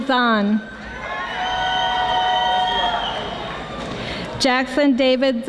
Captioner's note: audience applauding